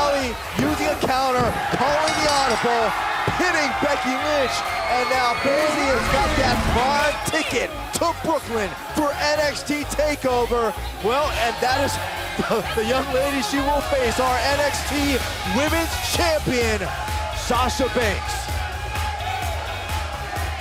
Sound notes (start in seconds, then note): 5.6 bell ringing